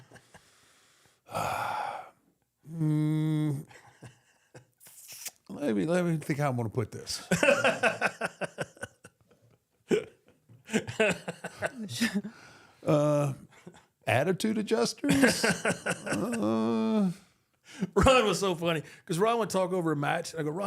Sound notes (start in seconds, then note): 0.0 JBL chuckles; 1.2 Undertaker sighs; 7.2 JBL laughs